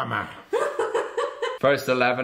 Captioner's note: laughing